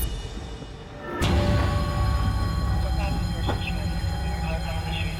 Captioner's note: dramatic music playing; alarm blaring